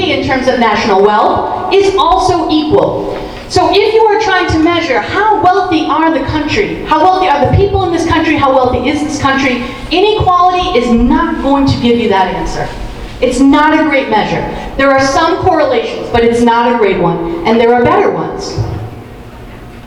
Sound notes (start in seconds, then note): none